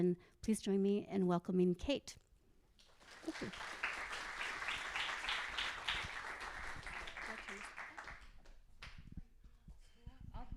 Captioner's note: applause